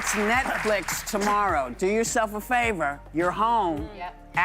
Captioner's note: applause